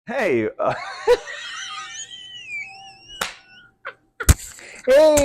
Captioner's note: laughter